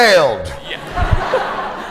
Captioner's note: laughter